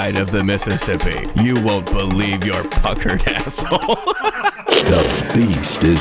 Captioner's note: laughs